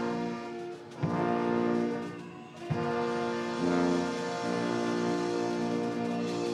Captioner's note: orchestral music; audience cheers